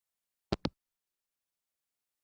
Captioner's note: hangup